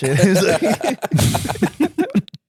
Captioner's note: laughing